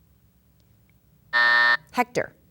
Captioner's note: buzzer sounds